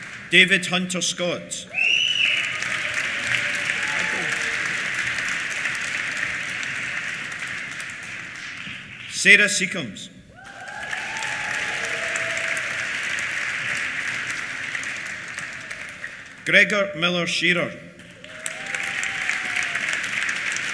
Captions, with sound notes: David Hunter Scott. (CHEERS AND WHISTLES) (APPLAUSE) Sarah Secombes. (CHEERS) (APPLAUSE) Gregor Miller Shearer. (CHEERS) (APPLAUSE)